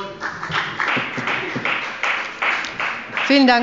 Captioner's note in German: Beifall bei der FDP